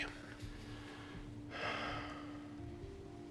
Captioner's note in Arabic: تنهدات